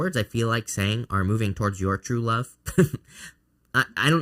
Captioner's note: chuckles